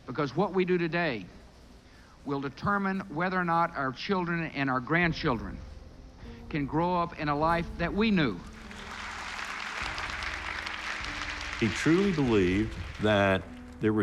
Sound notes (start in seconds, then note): 8.4 audience applauding